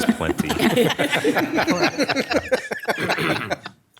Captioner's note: people laugh